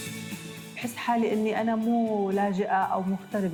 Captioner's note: non-english speech